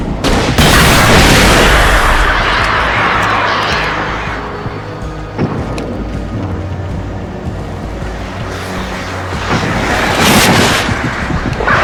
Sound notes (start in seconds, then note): 0.0 burst; 0.0 bangs and gunshots; 4.8 vehicle noise; 9.3 bangs and gunshots